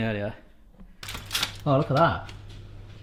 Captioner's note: crinkling